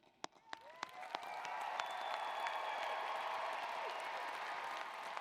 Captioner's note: applause